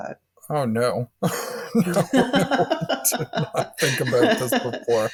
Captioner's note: laughing in unison